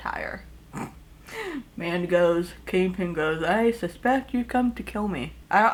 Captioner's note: snickers